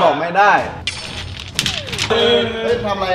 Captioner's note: rock crumbling